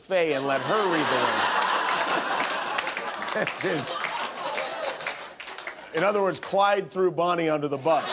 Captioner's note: laughter